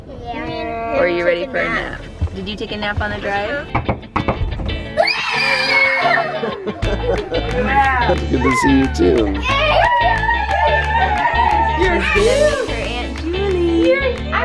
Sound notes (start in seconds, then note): 3.6 knocking on door; 5.2 yelling; 5.6 laughing; 9.8 yelling